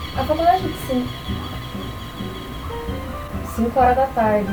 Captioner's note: birds chirping